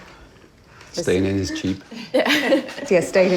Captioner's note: laughs